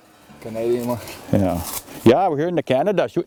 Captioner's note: michigan accent